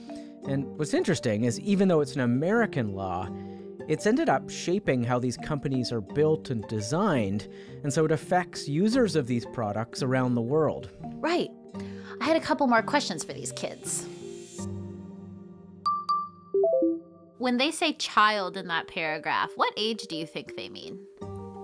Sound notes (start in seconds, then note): 15.8 device chiming